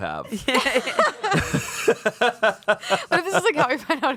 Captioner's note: everyone laughs